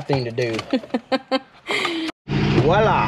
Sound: laughs

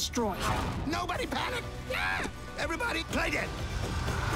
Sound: screams

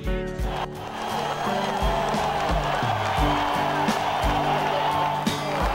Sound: cheers

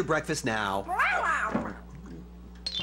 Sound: meowing

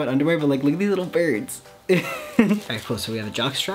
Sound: laughs

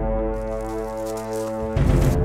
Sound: fast footsteps

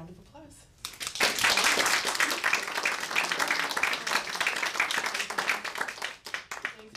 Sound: applause

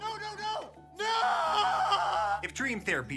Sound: screams

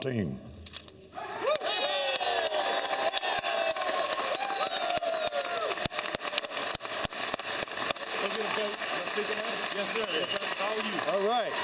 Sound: cheers and applause

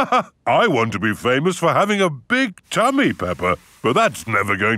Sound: laughs

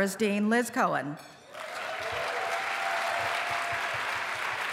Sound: applause

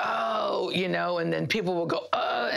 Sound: groans

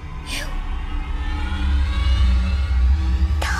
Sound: whooshing

